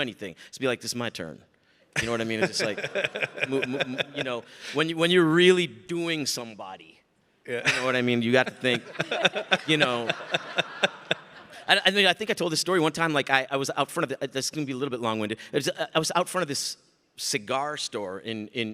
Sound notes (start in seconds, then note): 2.0 Mike laughs; 10.2 audience laughing